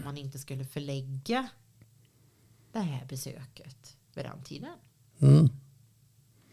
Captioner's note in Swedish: harklar sig